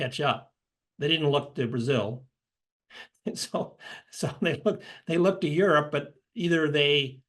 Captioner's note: laugh